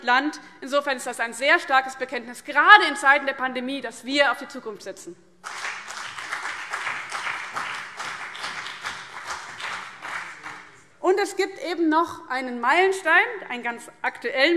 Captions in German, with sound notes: Das ist - gerade in Zeiten der Pandemie - ein sehr starkes Bekenntnis dazu, dass wir auf die Zukunft setzen. [Beifall BÜNDNIS 90/DIE GRÜNEN und vereinzelt CDU] Es gibt ganz aktuell einen weiteren Meilenstein, einen,